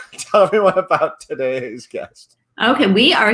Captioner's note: laughs